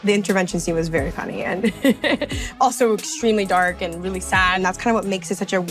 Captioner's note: chuckles